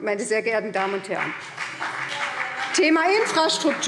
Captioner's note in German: Beifall BÜNDNIS 90/DIE GRÜNEN - Zurufe SPD und DIE LINKE